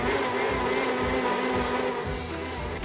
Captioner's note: blending Noises